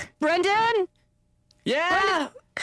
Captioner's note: yelling